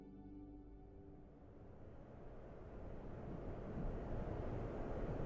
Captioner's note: wind whistling